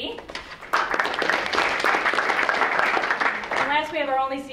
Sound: audience clapping

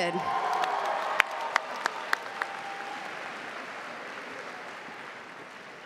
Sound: crowd cheering

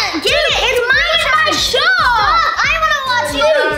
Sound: children arguing

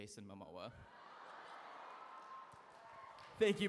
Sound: laughter

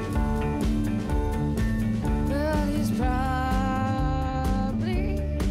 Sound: none

